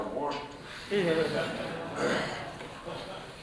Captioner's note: laughter